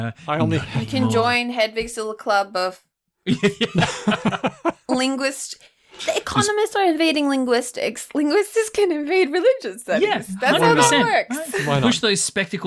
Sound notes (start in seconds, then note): 3.2 laughter